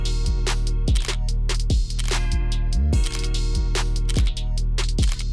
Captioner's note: camera shutter clicking